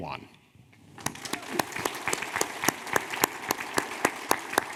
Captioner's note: audience applauding